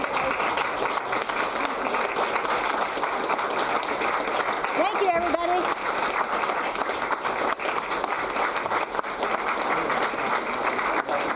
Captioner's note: applause